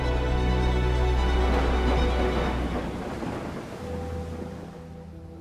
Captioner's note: thunder rumbles; gentle dramatic music